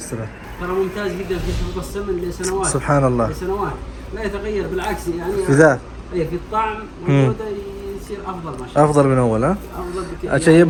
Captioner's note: Arabic